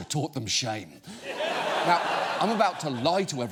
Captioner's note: audience laughs